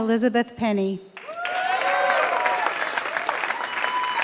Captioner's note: applause